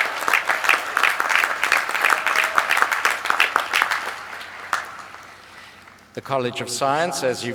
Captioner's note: applause